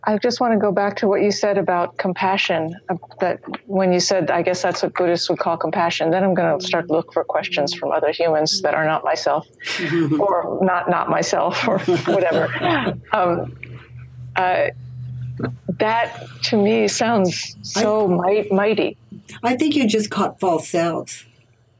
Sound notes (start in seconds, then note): 11.5 laugh